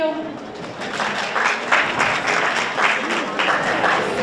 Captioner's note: audience applauds